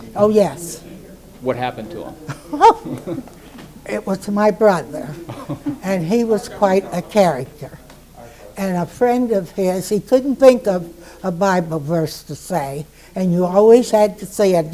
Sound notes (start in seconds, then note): 0.0 affirms; 4.0 laughs